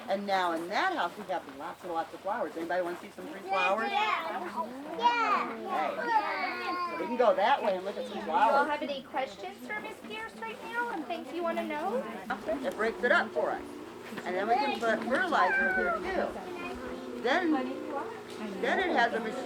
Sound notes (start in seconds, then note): 5.0 children agree in unison